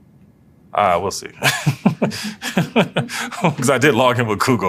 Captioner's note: laugh